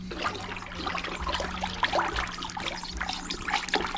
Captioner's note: slowly stirring